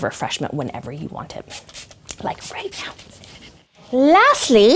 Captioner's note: spraying